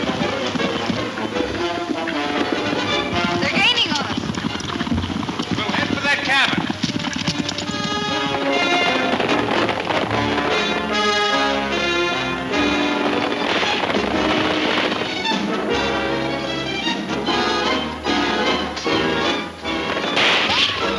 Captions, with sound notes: - They're gaining on us! - We'll head for that cabin! (hooves thundering) (guns shooting)